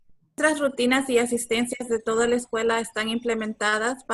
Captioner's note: speaking Spanish